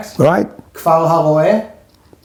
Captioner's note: Hebrew language